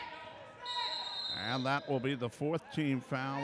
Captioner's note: whistle blows